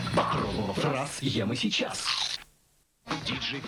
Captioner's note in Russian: хруст